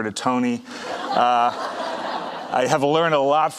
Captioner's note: audience laughing